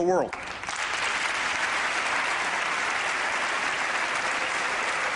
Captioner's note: applause